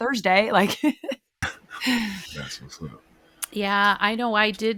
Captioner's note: laughs